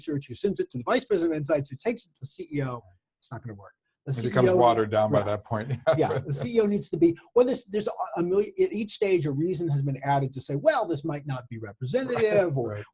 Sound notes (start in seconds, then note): 4.2 laugh